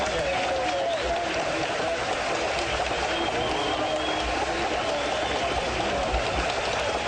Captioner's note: applause